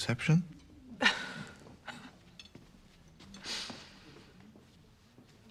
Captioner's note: tertawa